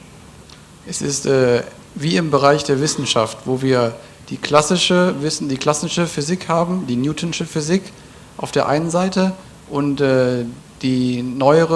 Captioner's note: German